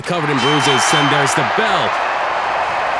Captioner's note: bell rings